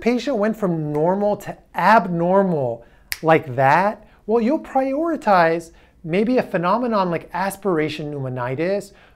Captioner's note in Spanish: snaps fingers